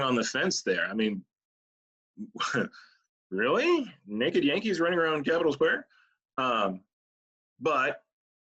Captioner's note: laughs